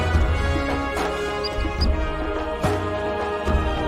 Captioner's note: chirping